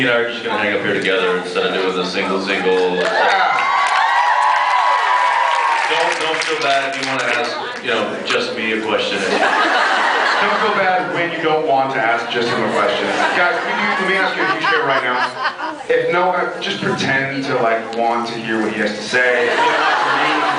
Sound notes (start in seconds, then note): 2.5 cheers; 2.6 cheers, applauds; 7.2 applauds; 9.2 laughs; 12.6 laughs; 19.4 laughs